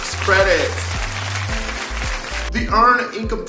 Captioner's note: applause